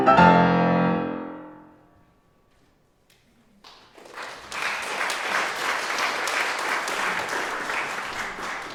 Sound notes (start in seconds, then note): 3.6 audience applauds